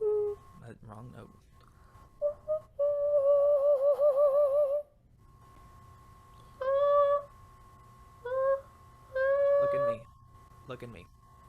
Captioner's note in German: summt